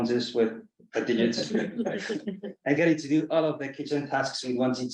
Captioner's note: colleagues chuckle